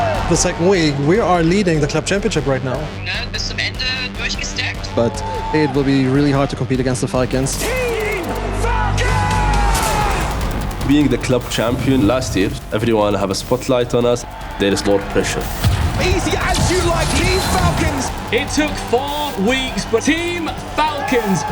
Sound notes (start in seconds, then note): 2.9 in German; 5.0 in English